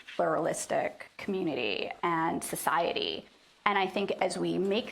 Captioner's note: none